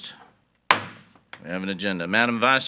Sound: gavel bangs

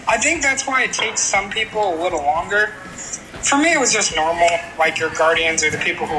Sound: none

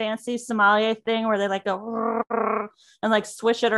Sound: growls

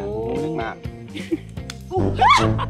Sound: laughing out loud

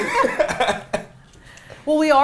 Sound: all laughing

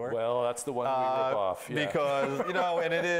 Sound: laughing

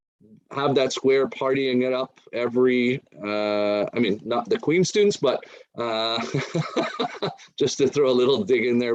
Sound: laughing

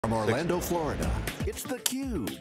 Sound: voiceover

